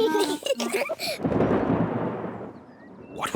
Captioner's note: both giggle; thunder rumbling